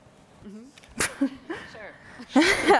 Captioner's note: laughing